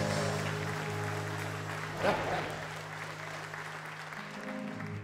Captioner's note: applause